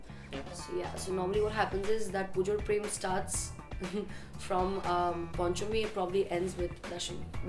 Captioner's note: laughs